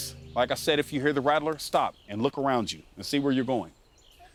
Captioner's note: none